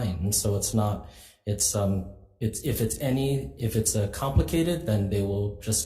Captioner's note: stammering